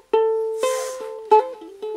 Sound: sniif

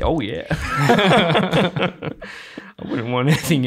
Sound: all laughing

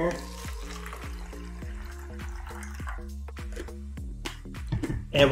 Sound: water trickling

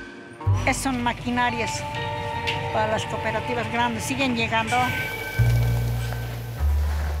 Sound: speaking in foreign language

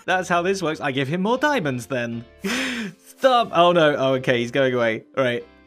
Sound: laughs

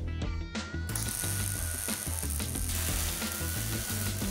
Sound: buzzing

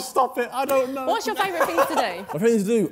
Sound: laughing

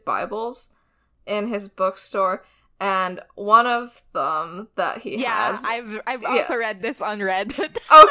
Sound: laughs

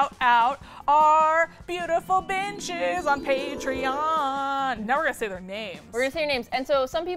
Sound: singsong

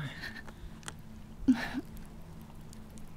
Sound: crying

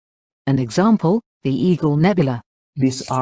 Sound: voice-over

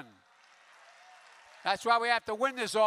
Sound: applause

